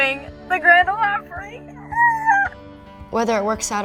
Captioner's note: screams